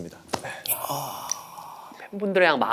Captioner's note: deep sigh